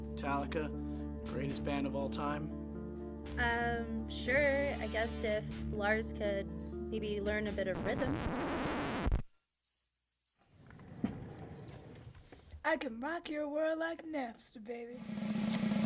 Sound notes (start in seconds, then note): 7.6 record rips; 9.2 cricket chirps; 15.0 air kisses